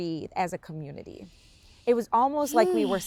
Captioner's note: sighs